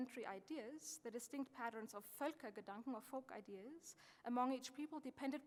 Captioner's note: speaking german